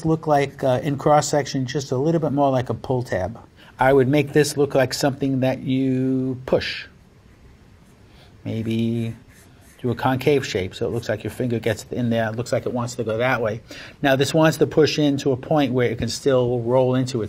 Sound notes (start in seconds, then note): none